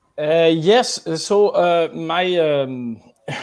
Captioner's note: laughs